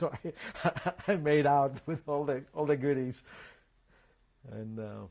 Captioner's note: laughs